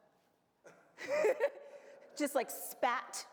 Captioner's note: laughs